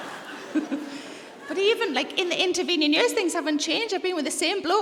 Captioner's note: laughs